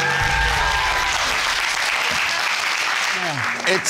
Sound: audience applauding and cheering

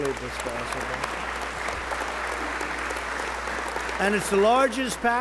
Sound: applause

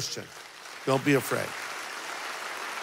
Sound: congregation applauding

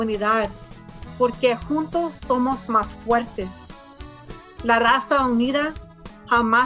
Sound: speaks in foreign language

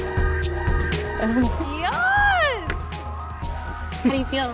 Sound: whispering

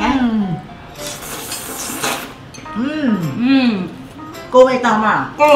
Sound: slurping sound

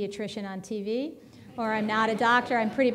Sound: audience laughing

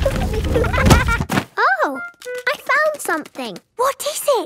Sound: thuds

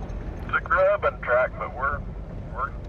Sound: man On Radio

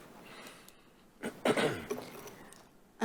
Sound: clears throat

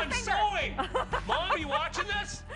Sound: laughter

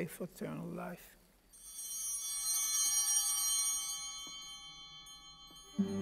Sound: altar bells ringing

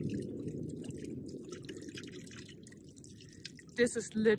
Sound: water burbling

